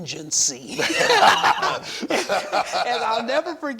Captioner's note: all laugh